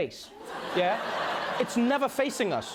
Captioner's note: laughter